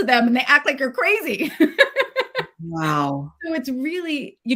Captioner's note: laughs